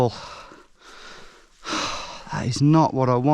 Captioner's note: exhales